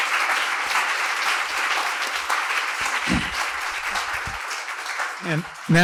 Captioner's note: applause